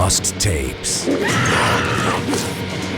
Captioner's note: woman screams